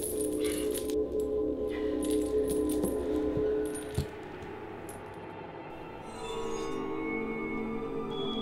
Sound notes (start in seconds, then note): 0.0 chains Rattling